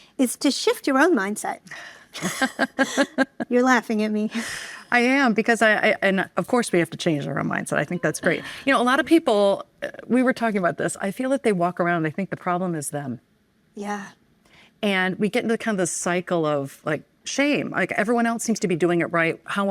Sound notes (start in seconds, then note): 2.1 laughing